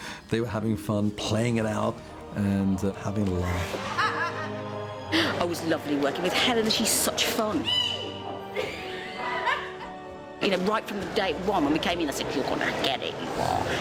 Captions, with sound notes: They were having fun playing it out and having a laugh. [LAUGHS] It's lovely working with Helena. She's such fun. You know, right from day one when we came in, I said "You're gonna get it, you are.